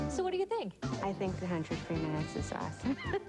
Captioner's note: laughs